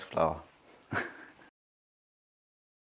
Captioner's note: chuckles